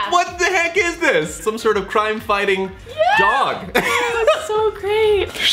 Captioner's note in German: lacht